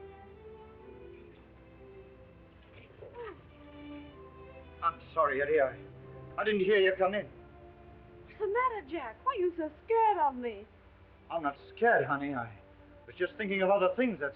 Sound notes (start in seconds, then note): 3.0 Ettie gasping